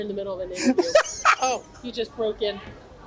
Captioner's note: laughs